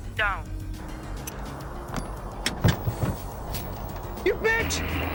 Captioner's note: grenade clicking